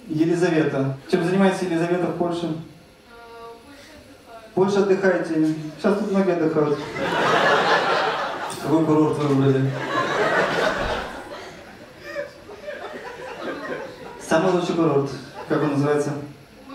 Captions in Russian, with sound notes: — Елизавета. Чем занимаетесь, Елизавета, в Польше? — В Польше отдыхаю. — В Польше отдыхаете? Сейчас тут многие отдыхают. (зрительский смех) Какой курорт вы выбрали? (зрительский смех) «Самый лучший курорт»? Как он называется?